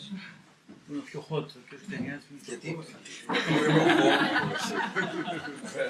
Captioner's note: laughter